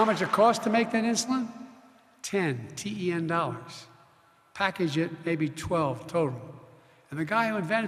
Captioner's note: applause